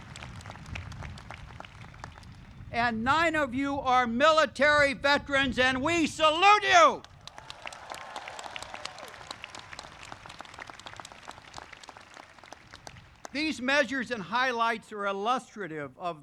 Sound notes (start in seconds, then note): 7.0 audience claps